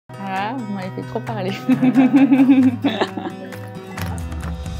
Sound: laughs

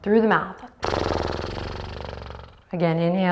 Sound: mimics horse

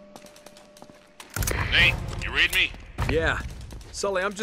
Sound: radio

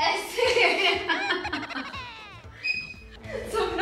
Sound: laughing

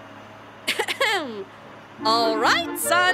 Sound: cough

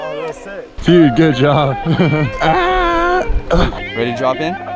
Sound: laughs

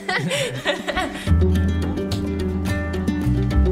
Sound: both laugh

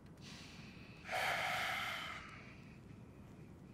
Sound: Reid sighs

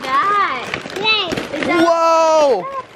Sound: shouts

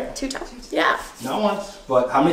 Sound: hands rubbing

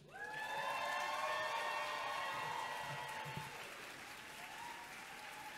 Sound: audience cheering and clapping

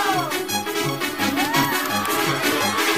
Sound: cheering

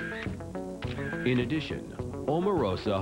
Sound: camera shutter clicks

